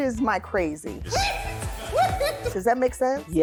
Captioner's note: laughing